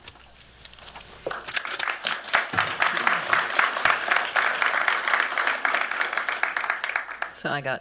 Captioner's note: applause